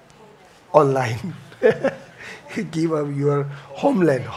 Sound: laughs

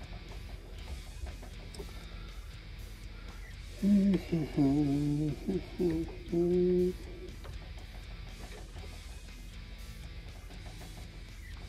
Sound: humming while working

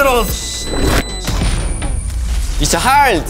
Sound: Spike detonates

